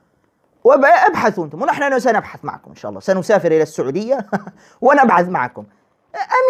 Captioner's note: laughter